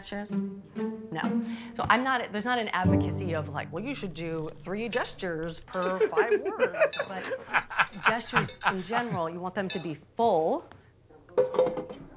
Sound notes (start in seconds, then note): 6.2 shell cracking